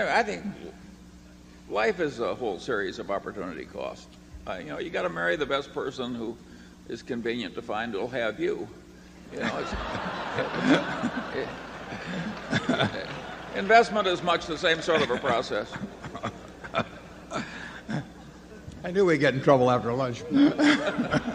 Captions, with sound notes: I think life is a whole series of opportunity costs. You know, you got to marry the best person who is convenient to find who will have you. (Laughter) Investment is much the same sort of a process. (Buffett laughs) I knew we’d get in trouble after lunch. (Laughter)